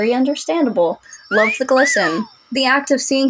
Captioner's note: catcall Whistle